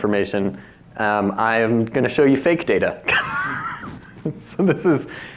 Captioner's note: laughs